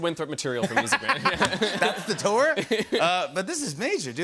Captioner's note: laughter